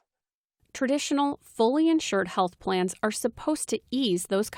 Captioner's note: voice-over